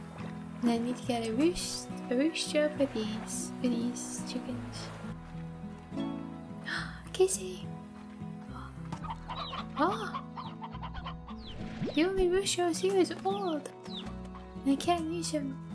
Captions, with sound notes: And I need to get a roost- a roostro for these, for these chickens (gasp) Casey! oh! Oh! The only roostros here is old! And I can't use him